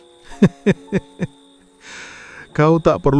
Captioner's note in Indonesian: tertawa; terkesiap